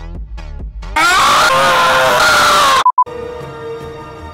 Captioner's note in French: Hurlements